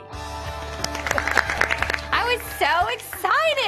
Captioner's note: applause